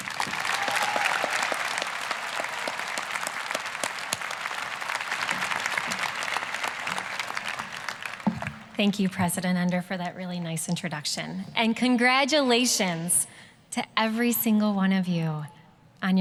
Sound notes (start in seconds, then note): 0.0 applause, cheering; 5.4 applause